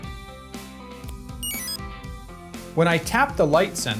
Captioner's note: exit chime